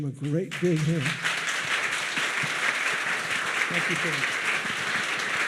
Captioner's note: audience applauds